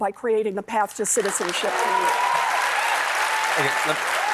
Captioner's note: applause